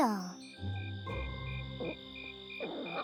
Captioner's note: crickets chirping